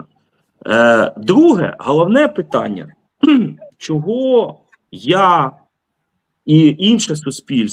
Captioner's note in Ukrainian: прочищення горла